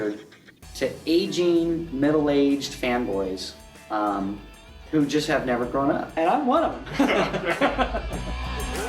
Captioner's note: laughter